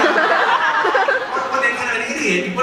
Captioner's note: crowd laughs